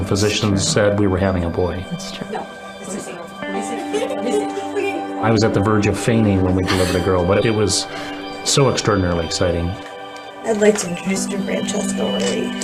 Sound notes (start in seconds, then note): 3.5 children giggling